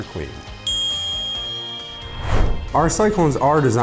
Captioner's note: ding